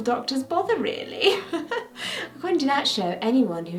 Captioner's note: laughs